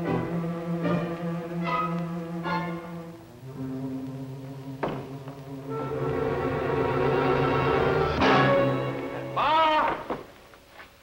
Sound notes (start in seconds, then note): 4.9 door rattles